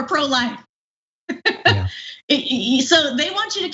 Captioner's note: laugh